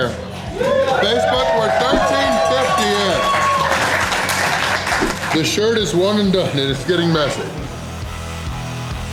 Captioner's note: crowd cheering